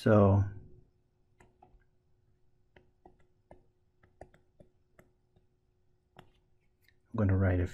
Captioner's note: tapping Sounds